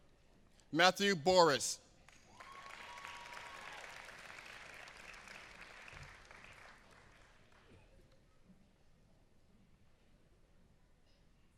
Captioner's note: applause; applause